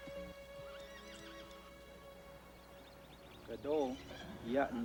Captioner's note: horses neighing